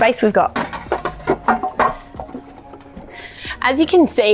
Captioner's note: clattering